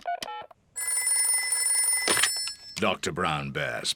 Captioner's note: beeping; phone rings